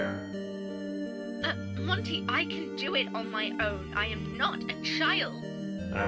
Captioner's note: sputter